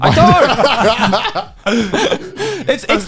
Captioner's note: laughs